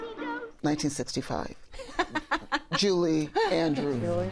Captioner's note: laughs